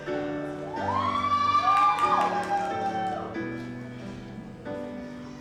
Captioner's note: audience cheers and applauds